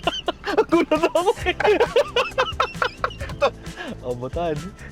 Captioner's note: both laugh